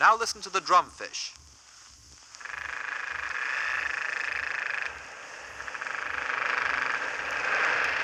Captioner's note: drum Fish sounds